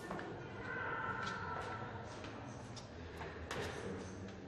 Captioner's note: distant echoing voices and footsteps